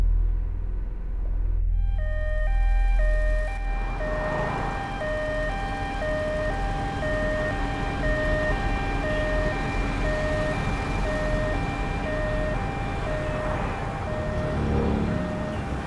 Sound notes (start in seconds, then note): 1.7 ambulance siren